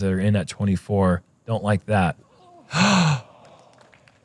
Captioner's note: gasp